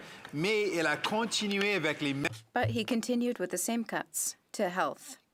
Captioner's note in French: voix de l'interprète